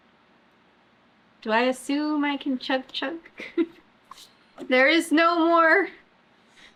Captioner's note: laughs